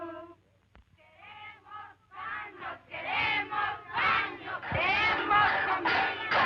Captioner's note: women chanting slogans in Spanish